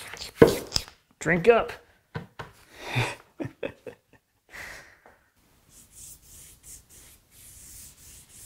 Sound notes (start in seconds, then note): 2.8 laughing